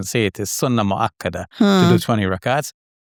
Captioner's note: speaking Arabic